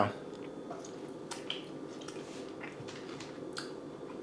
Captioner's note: chewing